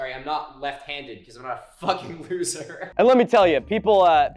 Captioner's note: laughing